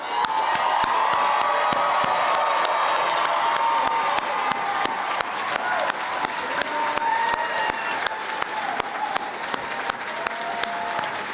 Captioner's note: cheering and Applause